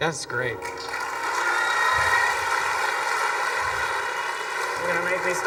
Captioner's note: students clapping and cheering